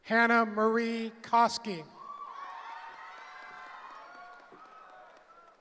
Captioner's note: cheering